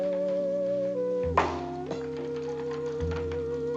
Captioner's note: champagne cork pops